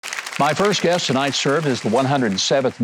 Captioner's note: audience applauding